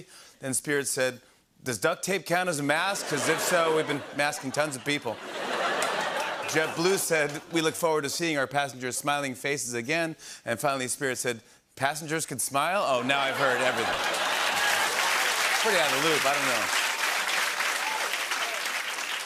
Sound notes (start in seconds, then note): 5.1 laughter; 13.0 laughter and applause